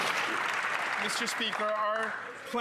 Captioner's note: some Applause